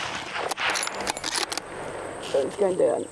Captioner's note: rifle recoiling; rifle firing